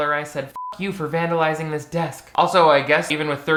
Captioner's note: beep